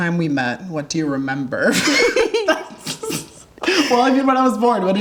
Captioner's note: laughing